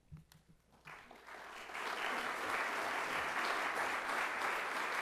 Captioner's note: audience applauding